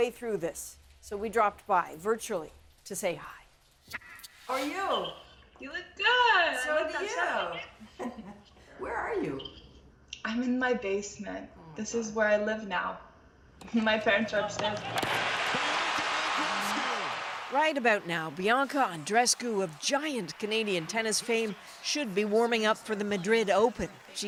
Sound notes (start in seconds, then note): 17.5 cheers and Applause